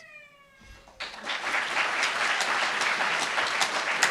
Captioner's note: applauds